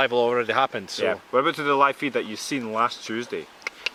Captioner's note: toung Click